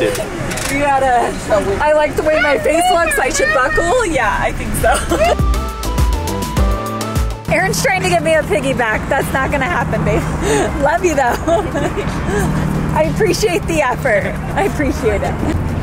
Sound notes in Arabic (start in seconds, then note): 4.8 يضحك; 5.0 موسيقى مبهجة